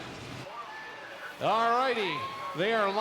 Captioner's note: crowd cheering